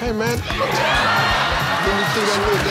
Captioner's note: audience laughs